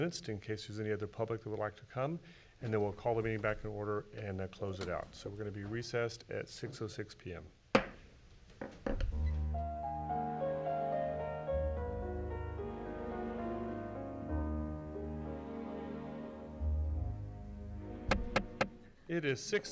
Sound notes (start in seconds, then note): 7.9 gavel hammering; 9.8 somber music; 18.0 gavel hammering